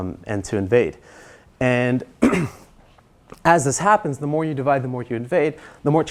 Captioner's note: cough